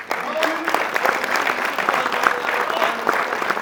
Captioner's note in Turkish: alkış